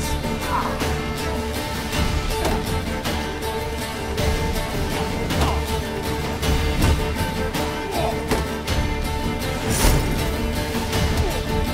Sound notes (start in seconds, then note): 9.6 Axii chimes